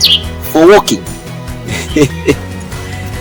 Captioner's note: laughing